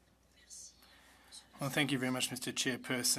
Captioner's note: speaking French